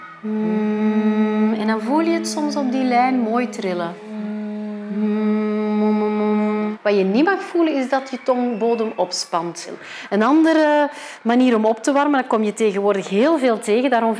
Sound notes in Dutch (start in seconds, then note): 4.2 zoemgeluiden